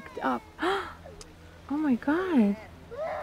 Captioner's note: gasps